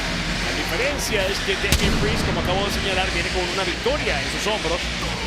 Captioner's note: commentator speaking Spanish